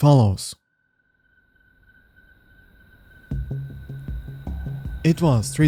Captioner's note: crickets